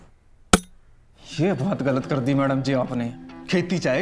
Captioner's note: Thud on ground